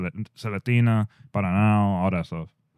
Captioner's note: speaking In Foreign Language